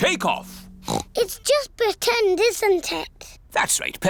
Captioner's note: oinks